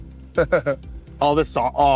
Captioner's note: chuckles